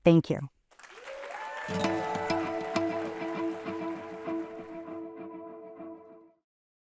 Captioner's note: applause and music playing